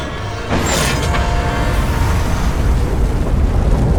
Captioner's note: meta clunking